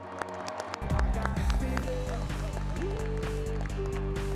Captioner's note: audience applauding and cheering